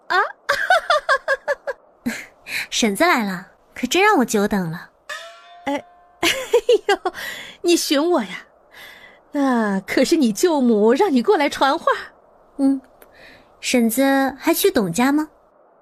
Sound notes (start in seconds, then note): 0.4 laughter; 5.2 exclaiming